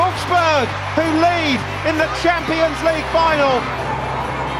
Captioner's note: applause